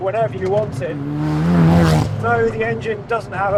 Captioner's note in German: Motorgeräusche gehen weiter